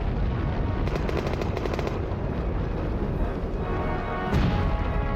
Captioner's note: guns firing